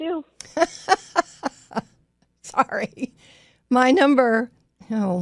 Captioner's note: laughs